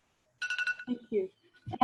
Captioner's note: alarm ringing